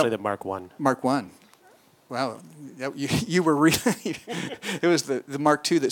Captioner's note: laughs